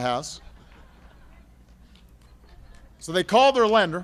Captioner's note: laughter